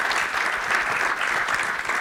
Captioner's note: applause